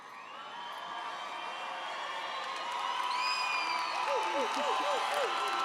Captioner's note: applause and cheering